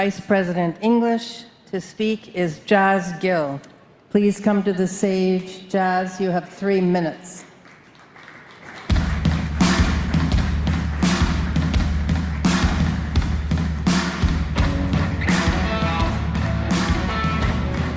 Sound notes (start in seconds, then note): 1.9 applause